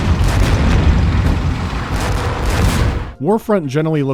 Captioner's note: deep, punchy cannon and artillery fire, howling of rockets